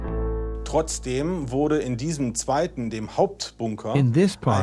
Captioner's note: German spoken audio